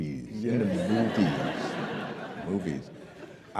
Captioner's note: laughter